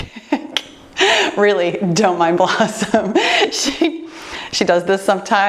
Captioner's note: laughs